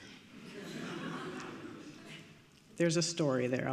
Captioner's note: audience laughing